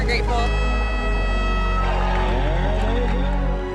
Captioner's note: crowd cheering